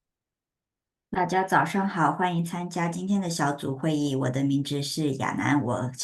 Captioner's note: speaking in foreign language